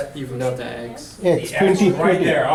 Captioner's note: voiceover